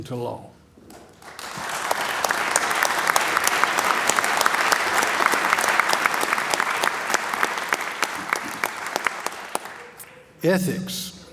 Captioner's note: applause